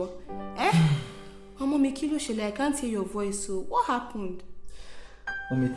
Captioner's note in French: parlant Yoruba